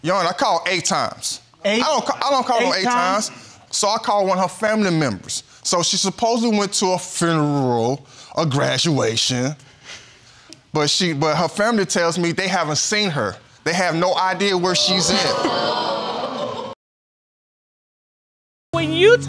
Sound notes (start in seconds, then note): 14.6 audience exclaiming; 15.1 chuckles softly